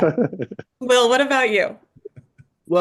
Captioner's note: laughs